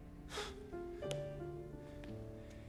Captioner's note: inhales sharply